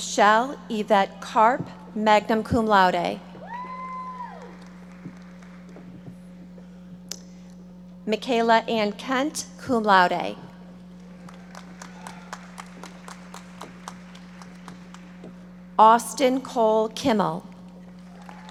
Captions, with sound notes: Michelle Yvette Karp, magna cum laude. (audience applauding) Michaela Ann Kent, cum laude. (audience applauding) Austin Cole Kimmel.